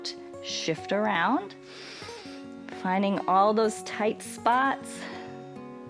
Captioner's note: inhales